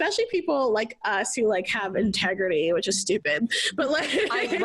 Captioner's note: laughs